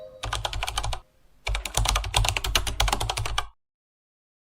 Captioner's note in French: bruit de clavier